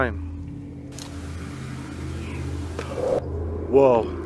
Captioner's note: woman Whisper